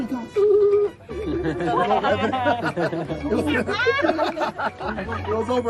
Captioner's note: laughing